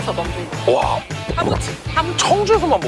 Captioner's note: gulp